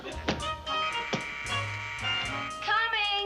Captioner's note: buzzer rings